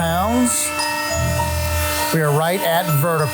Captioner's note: machine whirring